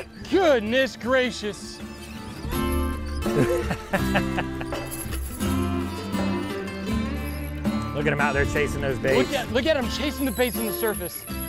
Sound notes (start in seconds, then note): 3.2 laughs; 5.4 guitar music